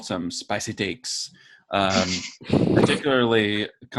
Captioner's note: laughing